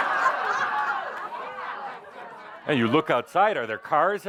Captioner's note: laughter